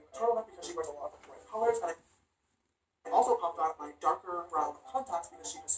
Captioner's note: James Charles talking